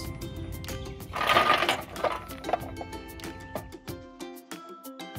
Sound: rocks spill on ground

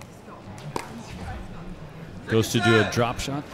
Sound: ball bouncing; chattering

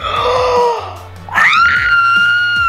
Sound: gasps; screams

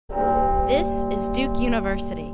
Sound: bell ringing

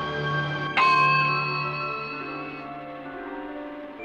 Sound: bell chiming

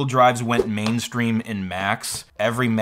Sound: swoosh

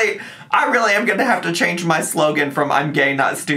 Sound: none

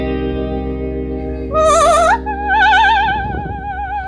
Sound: parrot singing opera aria

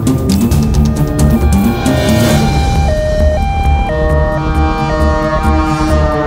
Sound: ambulance siren wails

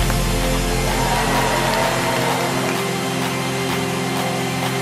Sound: cheers and applause

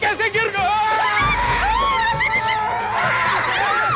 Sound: screams

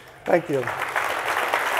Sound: audience applauding

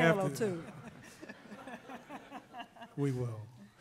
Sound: laughing

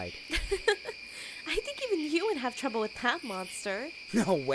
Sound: giggles

